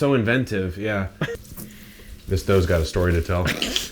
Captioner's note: laughing; sniffs